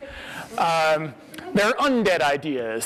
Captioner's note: audience laughs